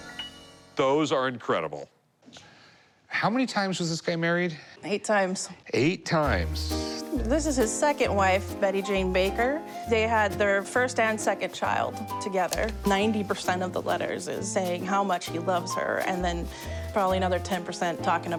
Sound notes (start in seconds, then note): none